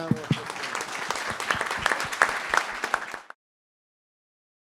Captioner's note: audience clapping